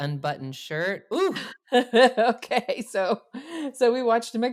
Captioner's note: laughs